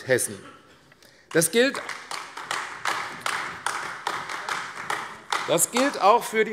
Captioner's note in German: Beifall AfD